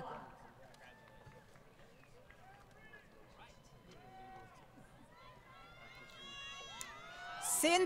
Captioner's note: crowd Cheering & Applause